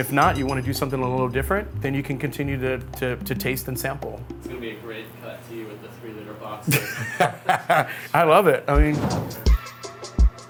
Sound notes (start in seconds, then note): 6.6 laughs